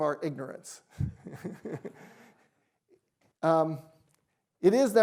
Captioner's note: chuckles